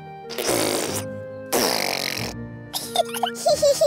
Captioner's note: sputtering; both giggling